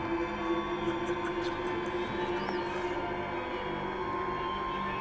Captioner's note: Max chuckles